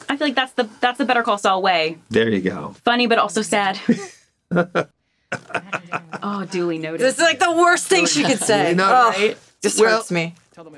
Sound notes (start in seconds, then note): 5.3 laughing